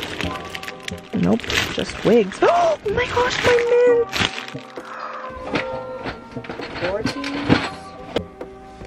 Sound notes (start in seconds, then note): 2.2 gaSP